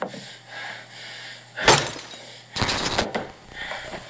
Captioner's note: glass breaking